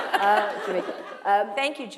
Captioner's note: laughter